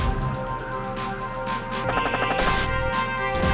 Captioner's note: gun firing; upbeat music